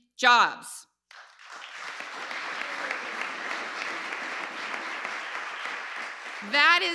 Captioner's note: applause